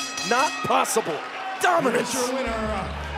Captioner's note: bell ringing